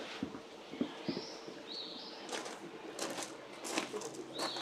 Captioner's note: birds chirp; footsteps crunch